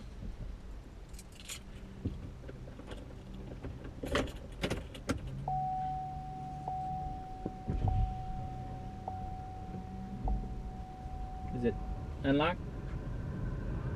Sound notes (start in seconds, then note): 7.4 chimes